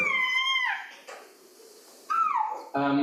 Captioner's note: screaming